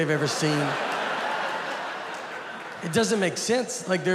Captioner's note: audience laughing